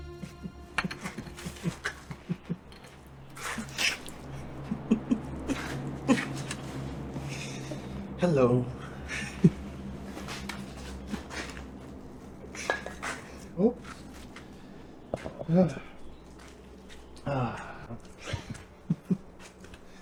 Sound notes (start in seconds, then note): 0.9 Patrick snickers; 9.4 chuckles; 12.6 bottle clinks; 17.2 chuckles